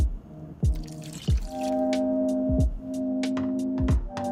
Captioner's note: splashing